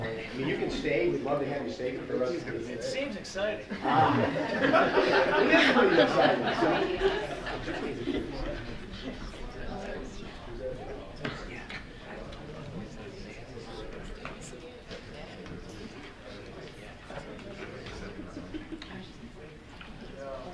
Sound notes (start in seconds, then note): 3.7 laughter